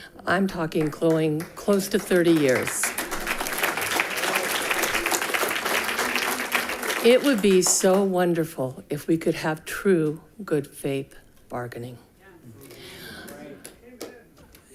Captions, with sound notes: I'm talking close to 30 years. (people clapping) It would be so wonderful if we could have true good faith bargaining.